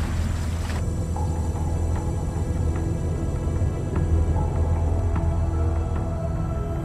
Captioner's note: submersible droning; soft celestial music